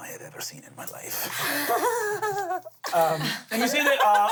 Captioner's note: giggles